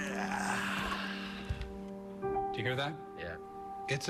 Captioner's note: grunts, exhales deeply